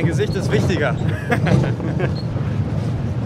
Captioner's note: laughter